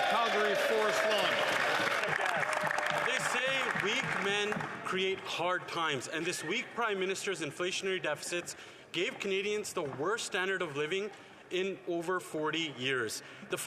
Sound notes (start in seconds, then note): 0.0 some Applause; 3.8 speaking French